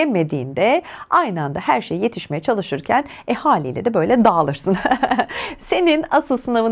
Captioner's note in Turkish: kahkaha